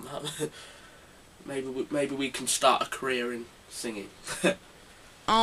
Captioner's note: laughs